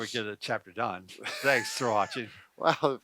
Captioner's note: laughs